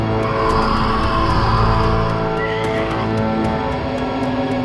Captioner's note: The Patriarch shrieking; singing in foreign language